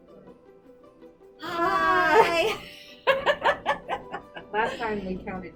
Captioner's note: laugh